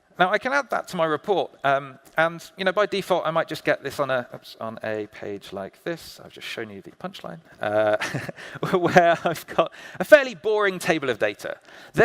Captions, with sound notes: Now, I can add that to my report and by default I might just get this on a, oops, on a page like this, I've just shown you the punch line, (chuckling) where I've got a fairly boring table of data.